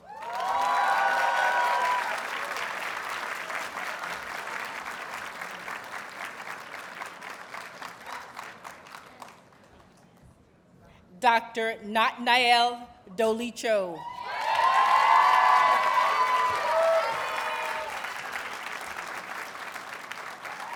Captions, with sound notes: [Audience cheers and applauds] Dr. Natnael Doilicho. [Audience cheers and applauds]